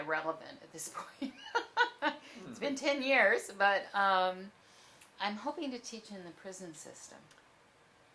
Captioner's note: laughs